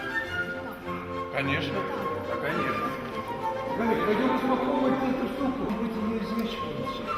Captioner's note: speaking in the Russian language